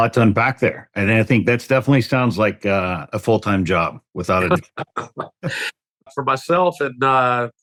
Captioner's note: laughter